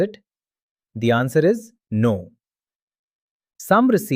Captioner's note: pause